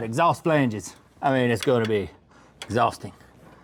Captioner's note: heavy Breathing